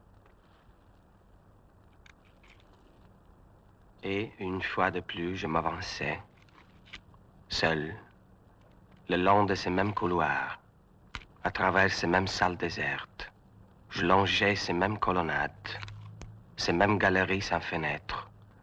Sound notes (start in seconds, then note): 4.4 speaks French